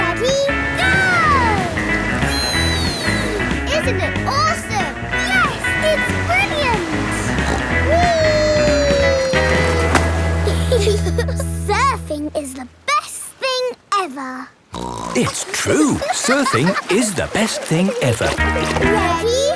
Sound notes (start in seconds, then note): 8.4 snorts; 10.4 giggle; 14.7 snorts